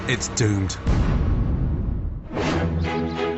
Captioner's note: distant boom; classical music